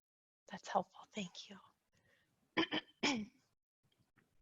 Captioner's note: clears throat